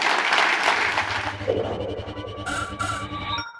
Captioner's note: audience applauding; quirky music